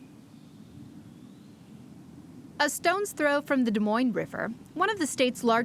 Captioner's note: nature sounds